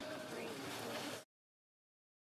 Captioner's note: speaking French